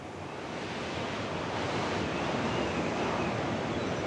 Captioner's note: waves crashing